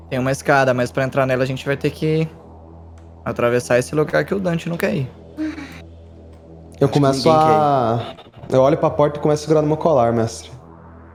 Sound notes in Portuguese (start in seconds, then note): 5.4 Suspiro